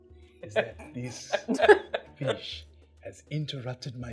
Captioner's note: laughing